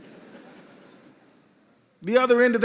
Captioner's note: laughter